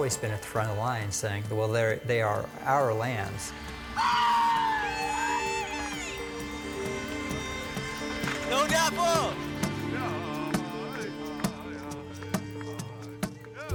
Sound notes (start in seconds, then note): 3.5 group screaming; 10.1 bystander singing and playing drums